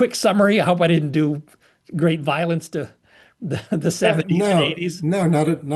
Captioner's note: laugh